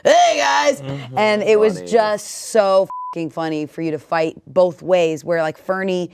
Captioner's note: beep